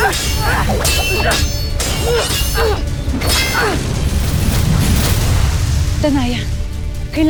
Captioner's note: growling & grunting; tense music playing; swords swishing & clanging; sparkling whoosh